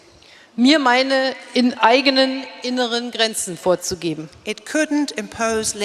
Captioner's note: speaking in German